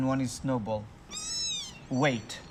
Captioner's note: kitten mews